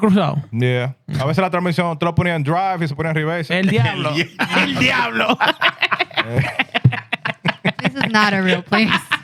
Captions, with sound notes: (Speaking Spanish) Yeah. (Speaking Spanish) (Laughter) This is not a real place.